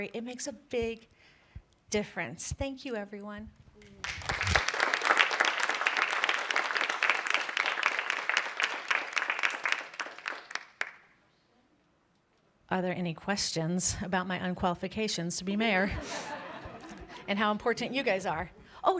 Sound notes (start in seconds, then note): 4.0 applause